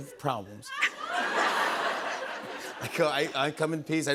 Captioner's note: laughter